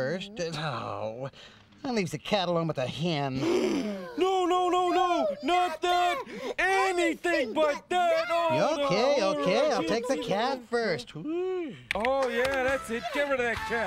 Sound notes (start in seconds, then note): 3.4 both gasp